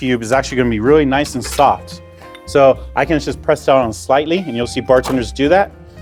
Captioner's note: liquid sloshes